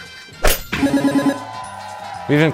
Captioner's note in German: Jubel